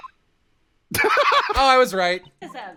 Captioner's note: laughter